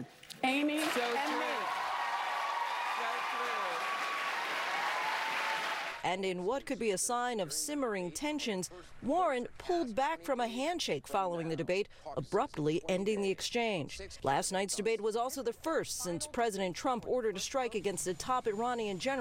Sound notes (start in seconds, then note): 5.3 applause